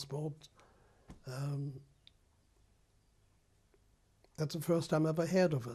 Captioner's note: pauses for 3 seconds